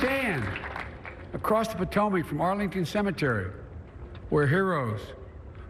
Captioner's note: applause